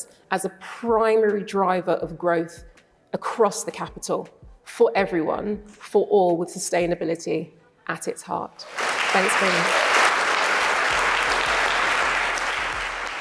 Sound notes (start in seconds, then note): 10.2 applause